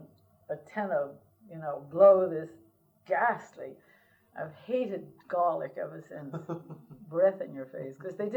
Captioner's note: laughter